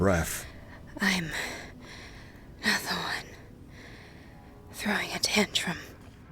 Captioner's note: quietly; breathily panted